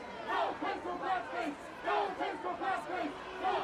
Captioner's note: shouting continues